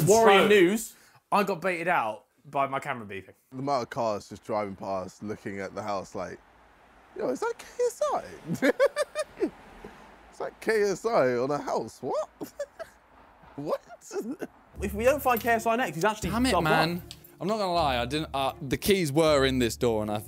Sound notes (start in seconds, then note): 8.2 laughs